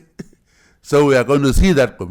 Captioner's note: laughs